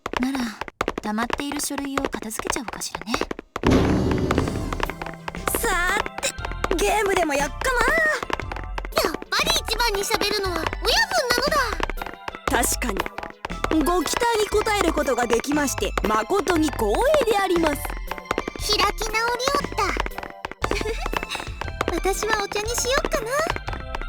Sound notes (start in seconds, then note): 14.1 deadpan; 21.3 giggle